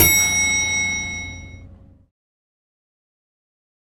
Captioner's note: dinging